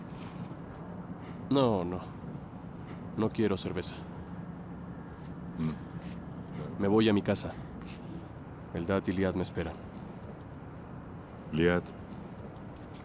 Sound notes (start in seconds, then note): 5.0 sonido tráfico